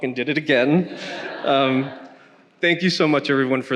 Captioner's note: attendees laughing